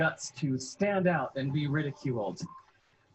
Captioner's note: laughs